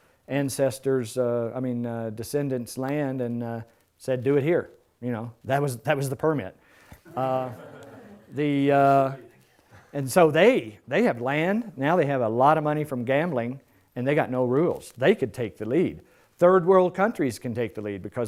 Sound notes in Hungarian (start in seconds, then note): 7.0 Nevetés